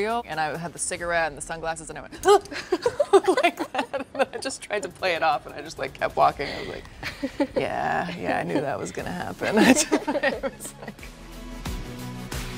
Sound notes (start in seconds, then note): 2.2 laughs; 8.9 dramatic music; 9.3 laughs